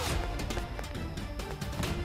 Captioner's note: Car door opens; Trunk opening